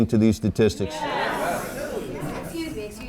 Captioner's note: crowd